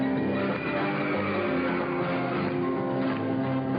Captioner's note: crowd rhythmically clapping; crowd cheering